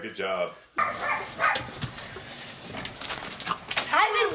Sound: barking

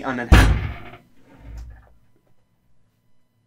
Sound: loud bang coming from behind

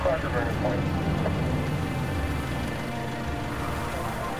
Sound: voices over radio

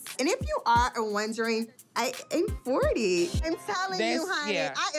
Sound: none

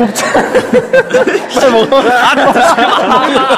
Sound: kkkkkkkkkkkkk

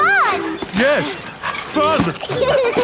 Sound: straining; peppa and george laughing

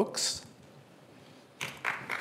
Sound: applause

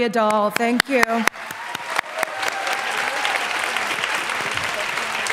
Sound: applause

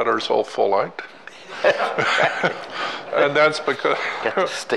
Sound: laughing

